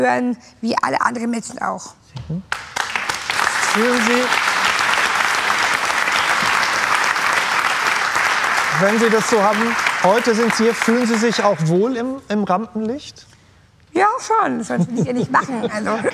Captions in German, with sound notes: dass wir genauso auf die Leinwand gehören wie alle anderen Menschen. (Applaus) Fühlen Sie ... Wenn Sie das so haben, heute sind Sie hier, fühlen Sie sich auch wohl im Rampenlicht?